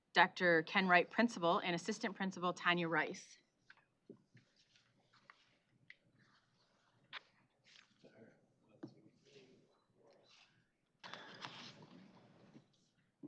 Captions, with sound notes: Dr. Ken Wright, Principal, and Assistant Principal Tonya Rice. [background chatter]